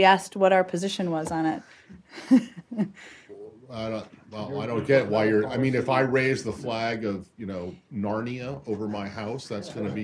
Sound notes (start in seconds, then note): 2.1 laughter